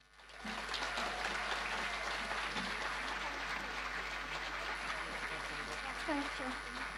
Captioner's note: audience applause